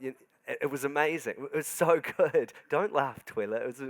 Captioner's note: laughs